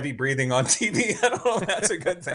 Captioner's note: chuckles